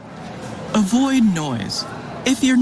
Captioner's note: crowd murmuring